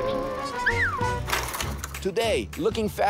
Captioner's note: whistling